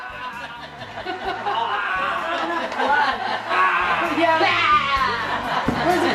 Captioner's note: growls and laughter